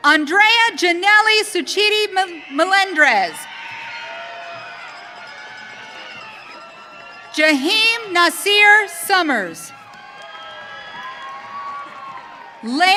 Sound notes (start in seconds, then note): 3.7 audience cheering; 9.6 audience cheering